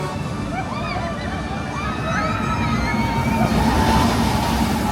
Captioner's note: riders screaming